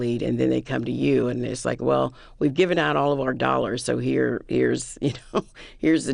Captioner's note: laughter